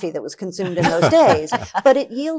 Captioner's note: laughing